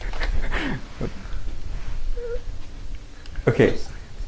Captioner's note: laughter